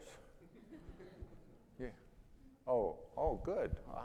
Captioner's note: audience laughing